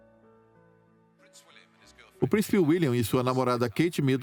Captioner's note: voiceover